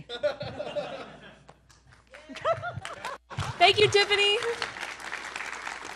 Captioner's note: applause and cheers